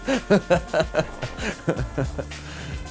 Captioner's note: laughter